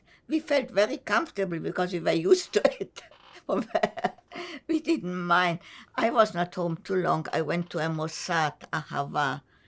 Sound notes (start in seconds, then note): 3.5 laughing; 8.8 hebrew